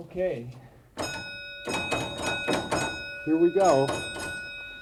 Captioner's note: bell rings